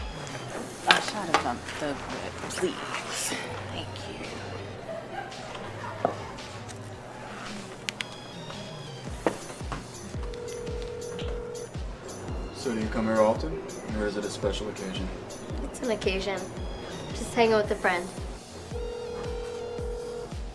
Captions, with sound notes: A shot of um, the red, please? Thank you. [Phone ringing] So, do you come here often, or is it a special occasion? It's an occasion. I'm just, hanging out with a friend. [Phone ringing]